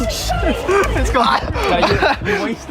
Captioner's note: laughing